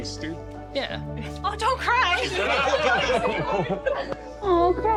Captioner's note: laughter